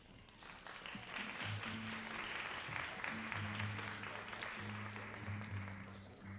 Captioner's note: all applauding